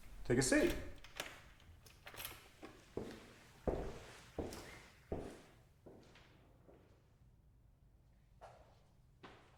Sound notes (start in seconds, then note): 0.0 door locking; 3.3 footsteps fading